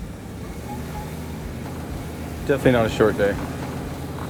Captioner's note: engine revs